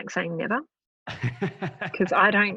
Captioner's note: laughing